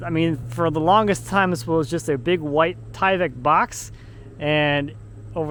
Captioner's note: none